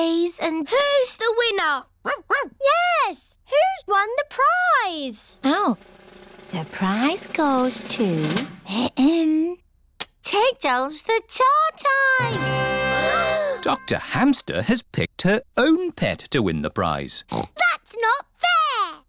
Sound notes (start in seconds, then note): 2.0 barks; 8.4 clears throat; 13.2 all gasp; 17.2 oinks